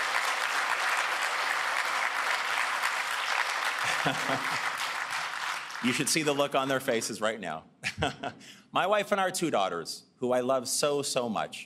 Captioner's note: cheers and Applause